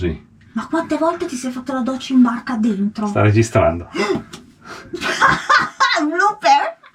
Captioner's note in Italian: risate